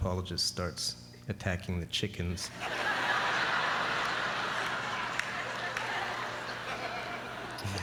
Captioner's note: laughter